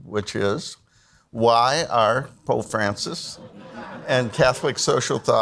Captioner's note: audience laughs